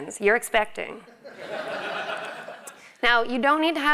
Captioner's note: laugh